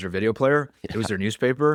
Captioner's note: laughs